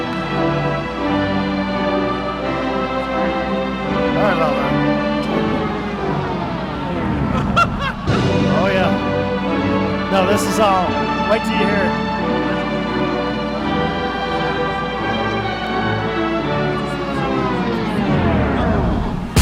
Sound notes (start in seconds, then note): 4.5 music dying; 4.5 person laughing; 16.6 music dying